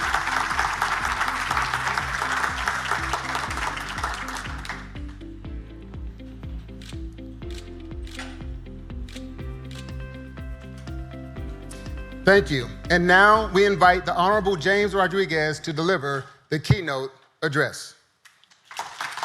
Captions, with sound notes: (upbeat music) (camera clicks) Thank you. And now we invite the honorable James Rodriguez to deliver the keynote address.